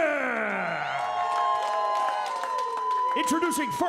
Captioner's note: applause